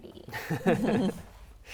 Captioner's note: laughs